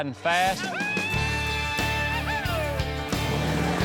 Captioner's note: yelling